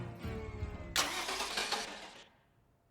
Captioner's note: engine turning over